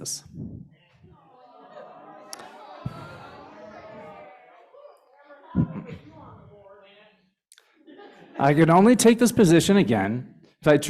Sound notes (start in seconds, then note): 7.6 laughter